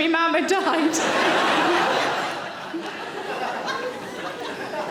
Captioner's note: audience laughing